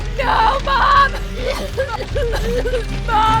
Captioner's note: Emily coughs; Emily struggles for breath